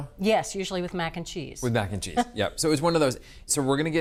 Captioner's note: Bridget chuckles